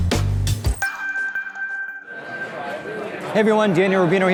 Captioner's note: beep